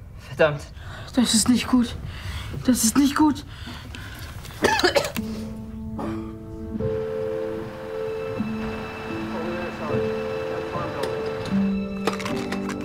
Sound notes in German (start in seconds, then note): 4.5 Husten; 5.2 Angespannte Musik